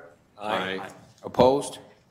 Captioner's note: multiple voices